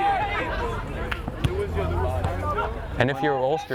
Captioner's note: players shouting